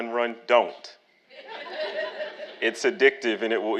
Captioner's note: audience laughing